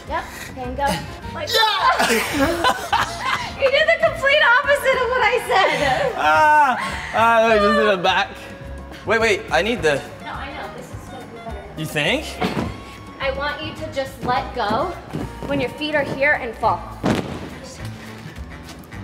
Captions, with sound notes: Yep, then go-- - Yeah! (both laugh) - You did the complete opposite of what I said! - (laughs) Let's go back. - Wait, wait, I need the-- - No, I know. This is gonna be better. - You think? - I want you to just let go, when your feet are here and fall.